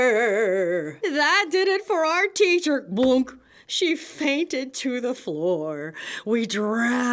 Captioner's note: blunk!